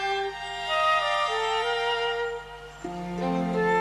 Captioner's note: none